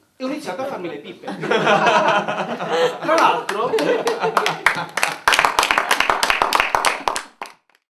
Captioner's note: applausi